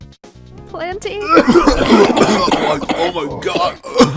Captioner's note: cough; coughing